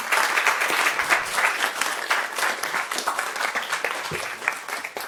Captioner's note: audience clapping